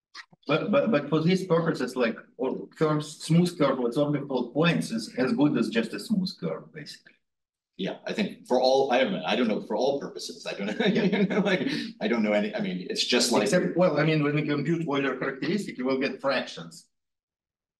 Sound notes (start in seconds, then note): 10.4 instructor laughs